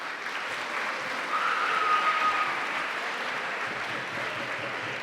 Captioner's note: applause